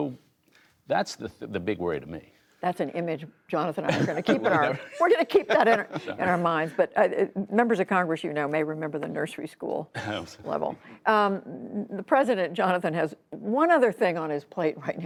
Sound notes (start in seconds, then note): 6.6 laughter